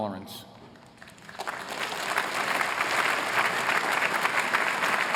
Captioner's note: applause